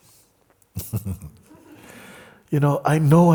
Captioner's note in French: rires